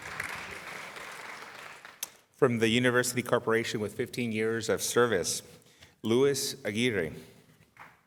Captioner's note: applause